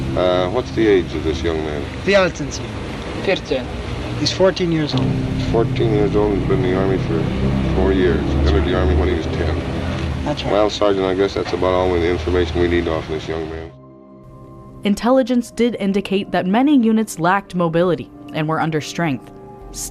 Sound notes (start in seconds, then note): 2.7 translator and soldier speaking German